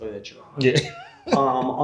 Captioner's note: laughing